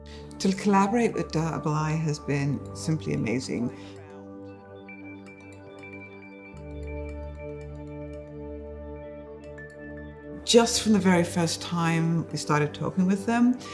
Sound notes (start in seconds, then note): 5.0 soft wooden ticking and electronic shimmering